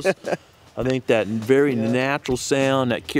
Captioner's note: chuckling